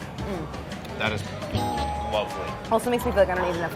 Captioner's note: bell dinging